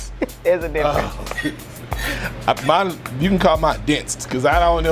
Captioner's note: scoffs